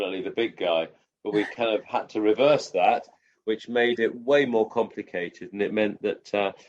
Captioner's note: laughs